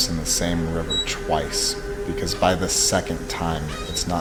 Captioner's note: swing squeaking